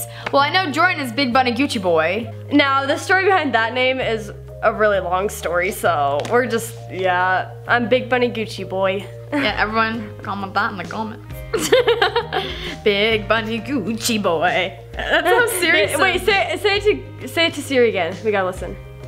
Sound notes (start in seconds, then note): 11.5 laughs